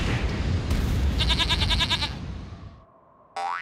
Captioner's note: bleats